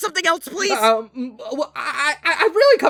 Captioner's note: stammering